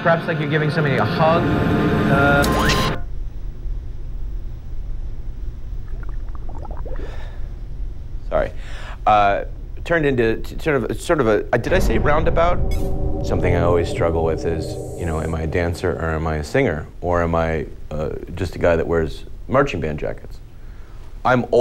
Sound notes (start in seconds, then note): 5.8 bubbles